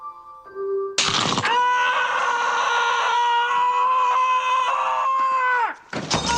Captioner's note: aaaaaaaaaahhhhh